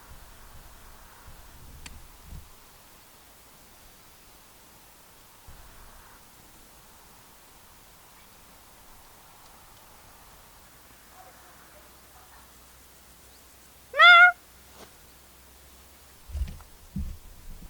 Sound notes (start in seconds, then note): 13.9 meow